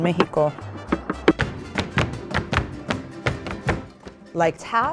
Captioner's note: shoes tapping